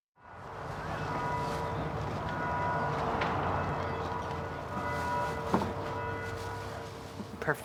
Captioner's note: church bells in background